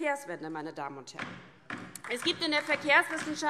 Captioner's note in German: Beifall DIE LINKE